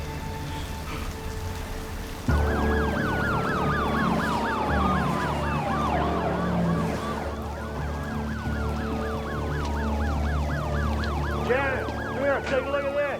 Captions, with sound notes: [sirens wailing] JANICE, COME HERE. TAKE A LOOK AT THIS.